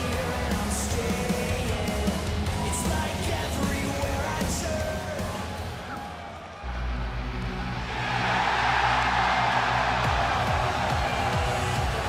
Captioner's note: crowd cheering